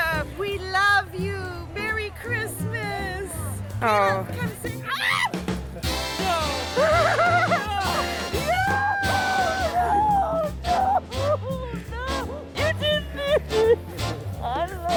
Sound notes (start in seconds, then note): 5.3 screams; 8.6 crying